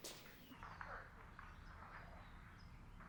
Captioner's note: footsteps